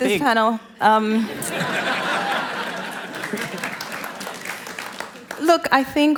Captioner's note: laughter